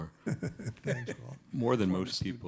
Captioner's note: chuckles